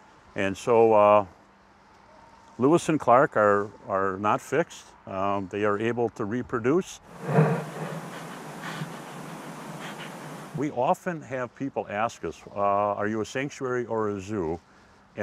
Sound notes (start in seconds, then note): 7.1 snuffling